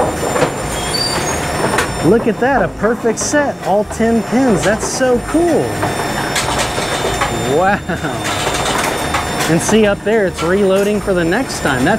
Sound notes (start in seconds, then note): 7.5 chuckles